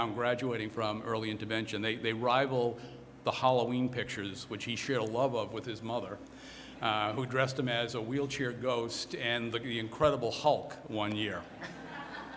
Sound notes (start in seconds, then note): 11.5 laughter